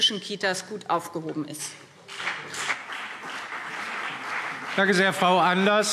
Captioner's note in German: Beifall BÜNDNIS 90/DIE GRÜNEN und CDU